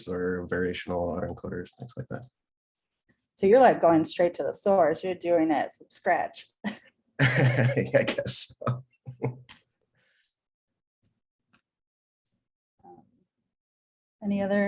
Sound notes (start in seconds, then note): 7.2 laughs